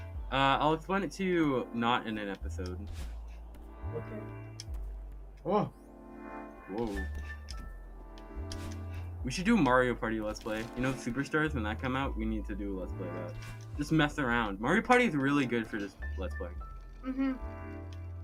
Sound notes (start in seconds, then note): none